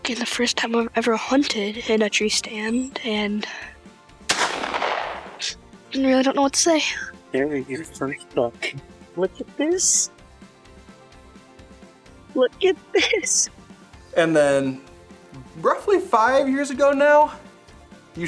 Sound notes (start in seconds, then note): 4.2 shotgun fires